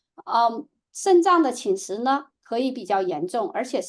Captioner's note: speaking chinese